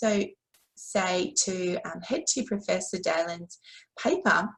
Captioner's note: conversation